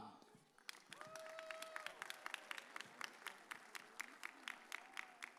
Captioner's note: audience cheers